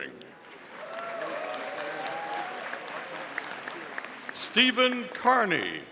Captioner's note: audience applauding